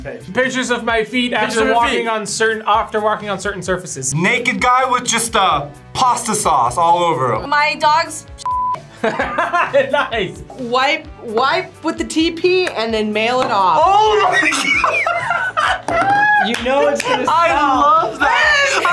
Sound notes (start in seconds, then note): 9.0 laughs; 13.9 laughs